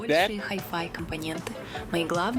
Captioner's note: speaking russian